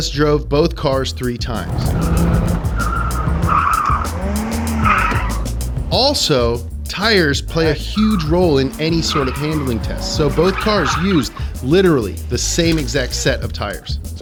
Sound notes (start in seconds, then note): 2.0 tires squealing